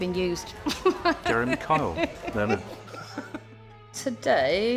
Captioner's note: laughing